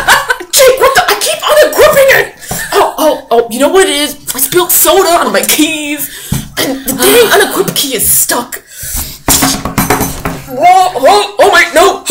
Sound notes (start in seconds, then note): 6.2 sighs